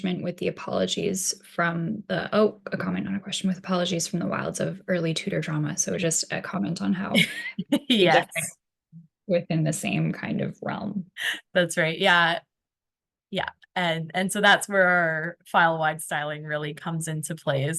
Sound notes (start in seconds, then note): 8.0 laughs